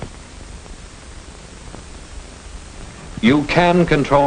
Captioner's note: none